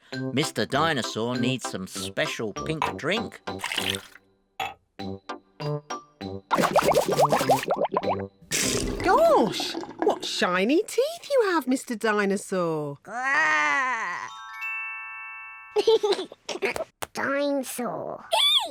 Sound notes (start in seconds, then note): 6.7 bubbles; 15.8 giggles